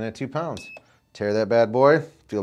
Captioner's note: beeps